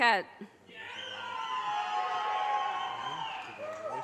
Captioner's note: audience cheers and applause